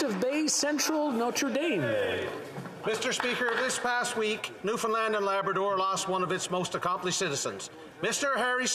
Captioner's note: applause